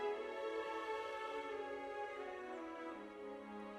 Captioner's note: none